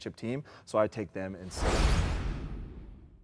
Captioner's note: logo swooshes